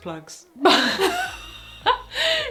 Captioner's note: both laugh